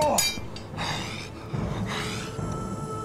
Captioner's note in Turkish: Nefes sesi